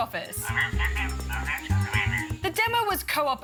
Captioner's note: kiwi bird chirps